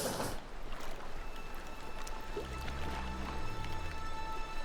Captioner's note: water babbles